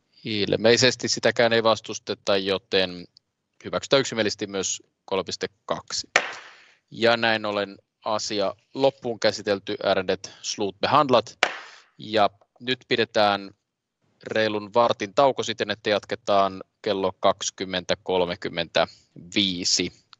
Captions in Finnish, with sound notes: Ilmeisesti sitäkään ei vastusteta, joten hyväksytään yksimielisesti myös 3.2. [nuijan kopautus] Asia loppuun käsitelty. Ärende slutbehandlat. [nuijan kopautus] Pidetään reilun vartin tauko. Jatketaan kello 20.35.